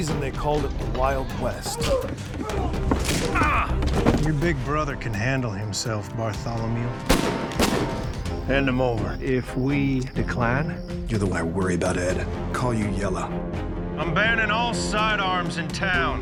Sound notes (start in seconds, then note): 7.0 gunshots